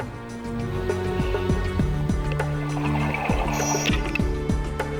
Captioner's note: underwater sounds